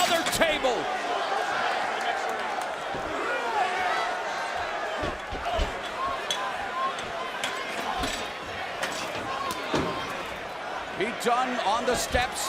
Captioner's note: crowd chatter